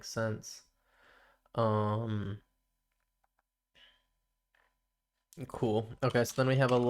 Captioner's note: silence